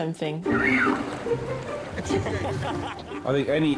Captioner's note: bright music continues; blowhole squeaks; group laughs